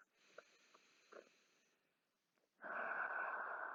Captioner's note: breathes deeply